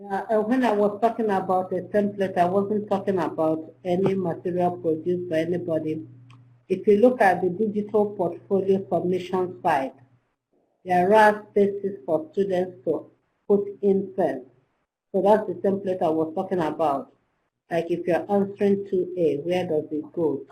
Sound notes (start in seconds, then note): 10.1 slurred